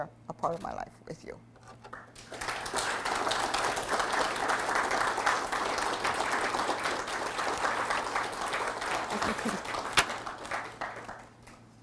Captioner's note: audience applause